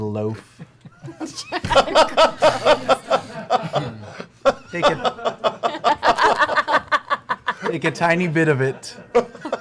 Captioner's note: laughter